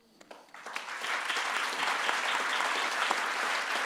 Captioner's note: audience claps